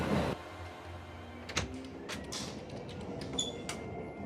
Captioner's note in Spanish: Sonido al abrir la puerta